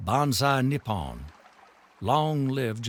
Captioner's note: speaking foreign language